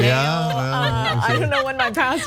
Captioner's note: laugh